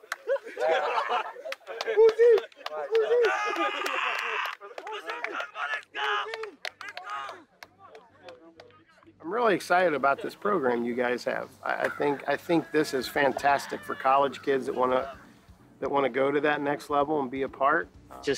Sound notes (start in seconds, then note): 0.0 players laughing